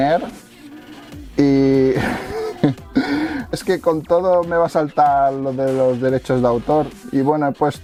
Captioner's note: laughing